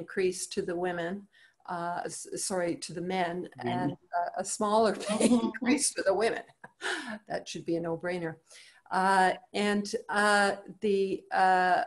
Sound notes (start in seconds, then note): 7.8 laughs